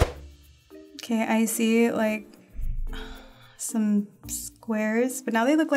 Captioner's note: sighing